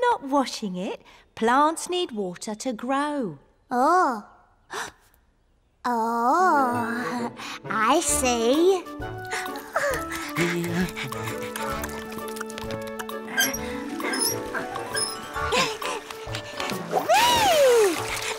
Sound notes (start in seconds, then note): 4.9 gasps